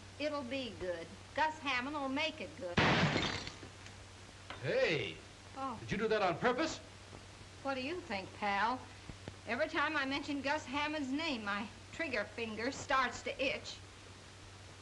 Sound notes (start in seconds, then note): 2.7 gunshot